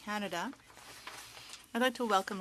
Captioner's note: speaking French